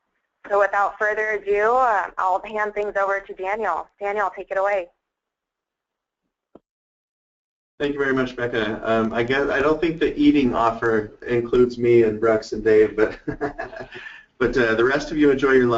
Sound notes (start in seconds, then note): 7.5 voiceover; 12.8 laugh